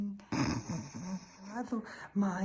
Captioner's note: snorts